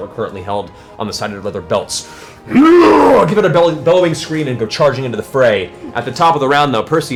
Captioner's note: roars